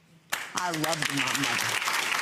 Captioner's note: audience applauds